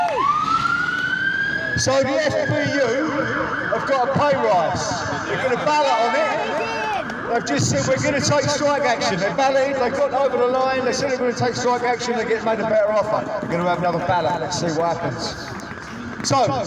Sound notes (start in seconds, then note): 3.7 crowd cheers